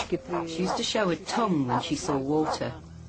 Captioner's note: talking in foreign language